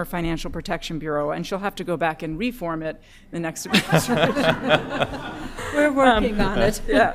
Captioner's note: laughter